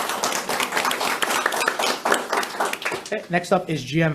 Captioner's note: audience applauds